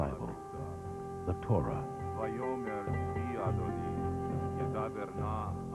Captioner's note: man Reading In Hebrew